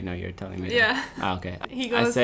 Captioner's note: laughing